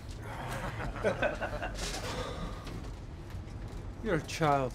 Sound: laughter

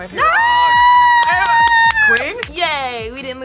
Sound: screams

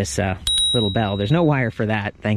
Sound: bell clinking

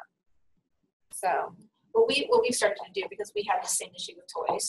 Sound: voiceover

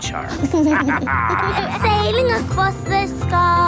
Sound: captain dog and kids laughing

